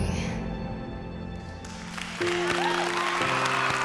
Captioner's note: cheering and applause